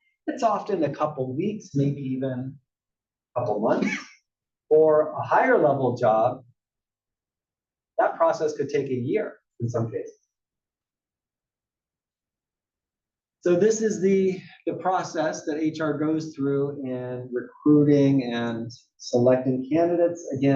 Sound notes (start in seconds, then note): 4.2 cough